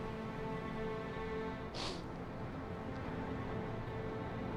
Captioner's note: sniffles